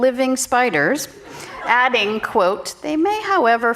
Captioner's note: audience laughing